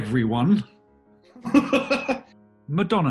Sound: laughter

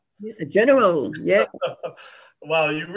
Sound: laughs

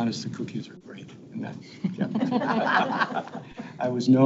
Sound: people laugh

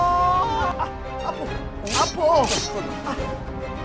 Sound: snip

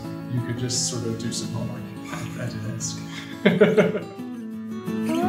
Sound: laughs

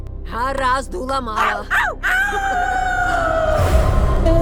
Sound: howls

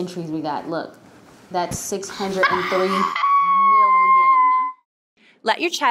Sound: squeals

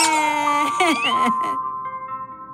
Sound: toy squeaking, crying; crying, music playing; toy squeaking

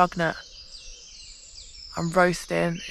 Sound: birdsong

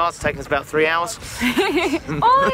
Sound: laughter

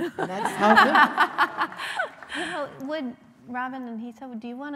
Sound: laughing

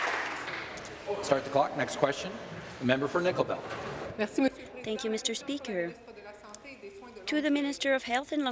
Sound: applause

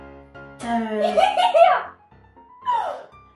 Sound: giggling

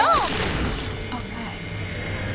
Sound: gunshot

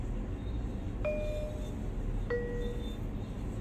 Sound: bell chimes

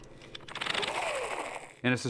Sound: whirring softly

